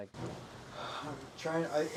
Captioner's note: sighing